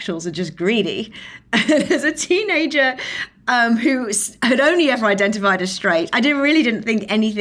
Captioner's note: laughs